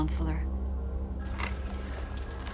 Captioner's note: telephone rings